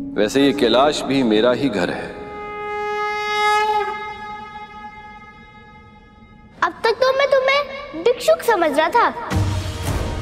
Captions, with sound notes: 'Kailash is my home too.' [conch blows] 'I felt that you are a mendicant all this while.'